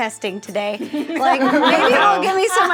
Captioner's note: all laughing